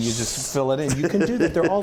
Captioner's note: laugh